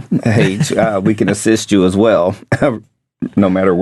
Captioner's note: chuckles